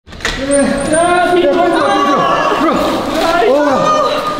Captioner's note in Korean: 소란스러운 소리